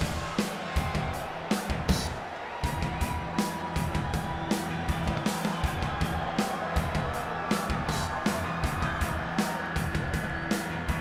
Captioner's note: crowd chatter